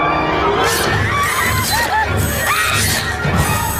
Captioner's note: agonized screaming